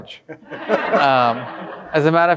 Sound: audience laughing

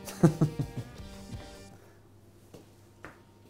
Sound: laughs

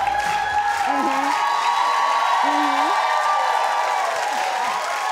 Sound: audience cheering

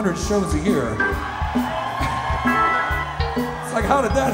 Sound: crowd cheering

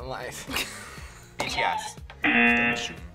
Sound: buzzer sounds

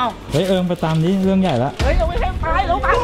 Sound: pat

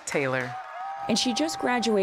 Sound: cheering and applause

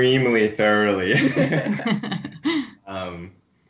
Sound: laughs

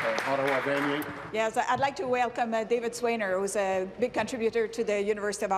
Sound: applause

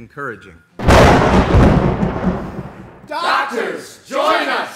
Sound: thunder

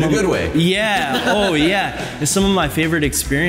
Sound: laughter

